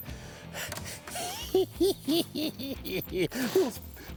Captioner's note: chuckling